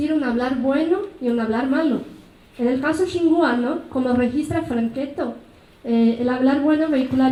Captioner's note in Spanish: habla en mazateco